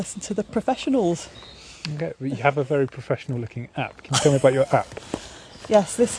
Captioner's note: laughs